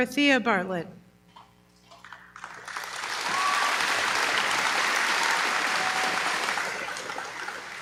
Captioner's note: applause